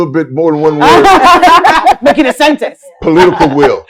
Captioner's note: panel laughs